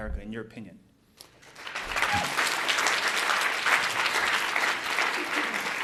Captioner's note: audience applauds